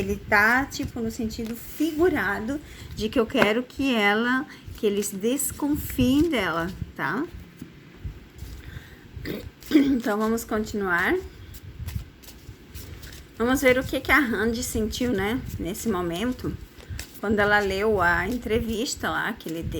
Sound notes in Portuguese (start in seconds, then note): 9.2 limpando a garganta